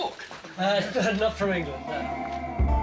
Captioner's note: laughs